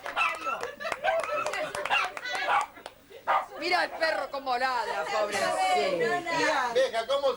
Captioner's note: applause